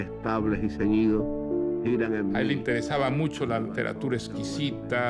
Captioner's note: speaking Spanish